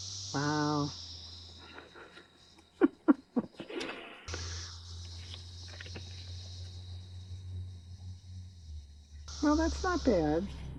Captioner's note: laughs